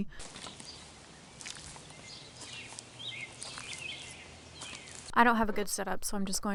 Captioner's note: birds tweeting